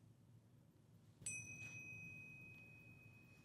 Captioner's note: chimes